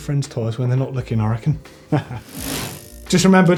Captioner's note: laughs